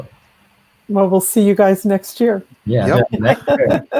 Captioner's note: laughs